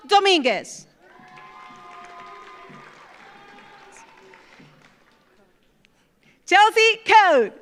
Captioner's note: audience cheers; audience applauds